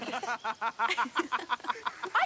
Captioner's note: laughs